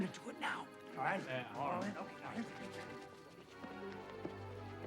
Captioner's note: men agreeing; ominous music